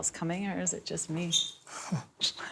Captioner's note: both laugh